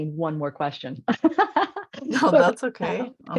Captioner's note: laughing